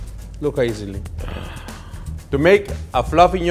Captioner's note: exhales